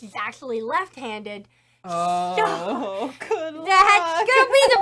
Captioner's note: laughing